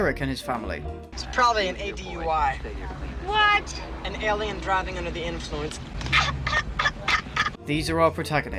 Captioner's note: smug laughter